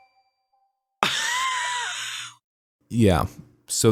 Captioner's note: wheeze